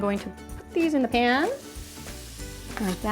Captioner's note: pan sizzles